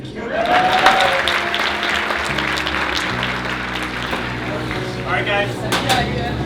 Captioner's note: applause